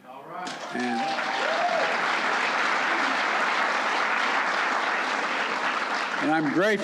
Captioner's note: applause